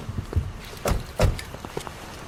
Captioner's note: car door closing